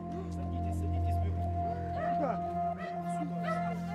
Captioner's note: conversations in the background